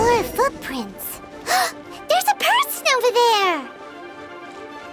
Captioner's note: gasp